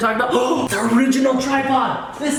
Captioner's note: gasps